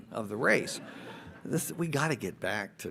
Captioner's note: audience laughs